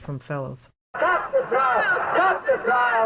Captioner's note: chanting